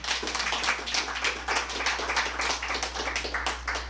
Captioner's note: applause